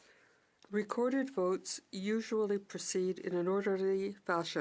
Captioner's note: speaking French